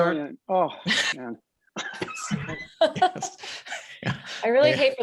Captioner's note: cast laughs